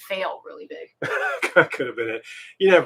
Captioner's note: laughing